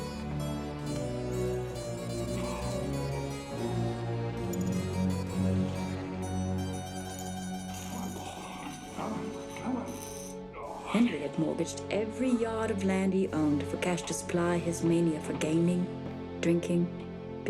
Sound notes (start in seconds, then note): 2.2 coughing